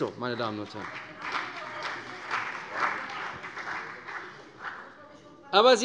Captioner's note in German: Vereinzelter Beifall CDU